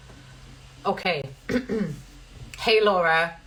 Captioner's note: clears throat